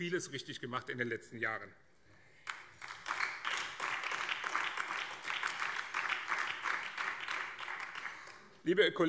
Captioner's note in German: Beifall BÜNDNIS 90/DIE GRÜNEN